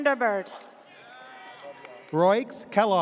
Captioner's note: audience cheers